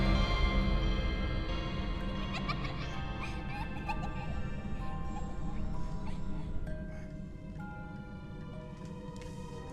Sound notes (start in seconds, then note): 1.9 eerie music playing; 2.1 children laughing